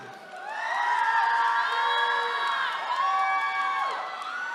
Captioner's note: attendees cheering